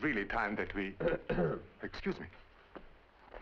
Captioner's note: Roget clears throat